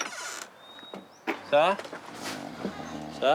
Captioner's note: snoring